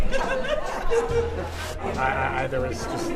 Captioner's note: laughing